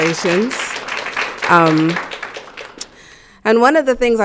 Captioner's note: audience clapping